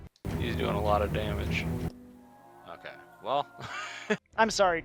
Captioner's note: laughs